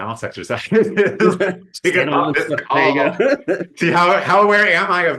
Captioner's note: laughing